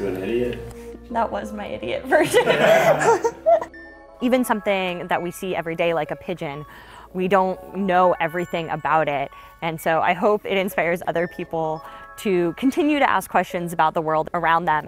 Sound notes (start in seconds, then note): 2.2 laughing